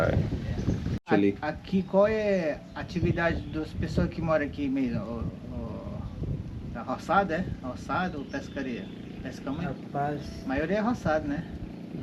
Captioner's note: speaking Portuguese